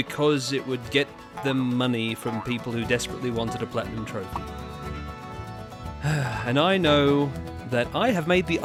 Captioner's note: bigger sigh